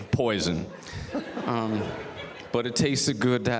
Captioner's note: audience laughs